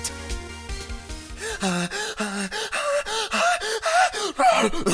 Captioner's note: hyperventilating